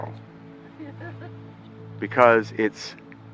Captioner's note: laughs